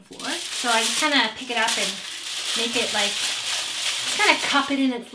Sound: foil rustling

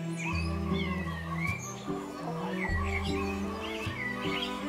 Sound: chickens squabble

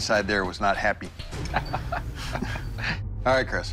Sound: laughs

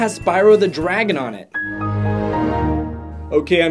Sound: windows shutting down

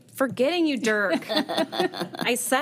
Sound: all chuckling

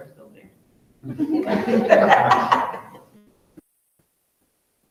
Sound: all laughing loudly

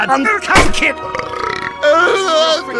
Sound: burP

